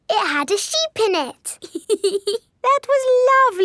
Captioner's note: laughs